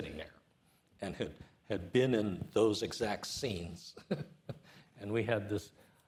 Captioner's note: chuckles